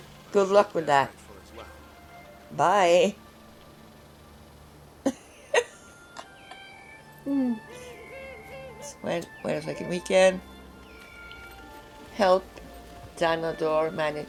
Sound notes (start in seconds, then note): 5.0 laughs